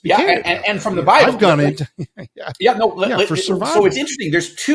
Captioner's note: chuckles